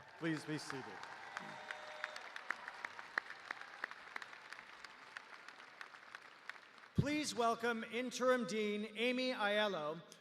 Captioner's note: cheers and applause